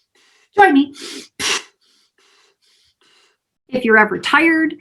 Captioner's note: puffing breaths